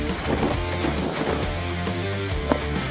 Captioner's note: breathing heavily